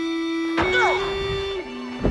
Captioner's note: grunting